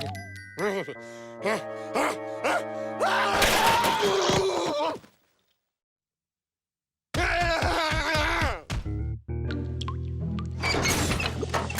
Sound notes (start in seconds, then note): 7.1 screaming